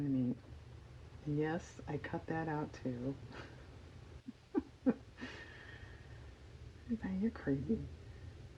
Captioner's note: laughs